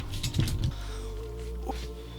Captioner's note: chair noises